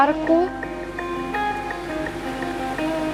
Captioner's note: raindrops falling